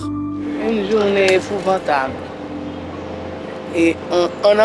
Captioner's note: French spoken audio